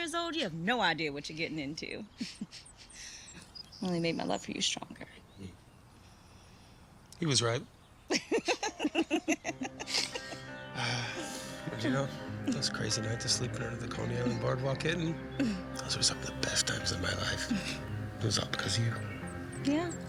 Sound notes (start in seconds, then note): 8.1 Edith laughs; 8.4 dramatic music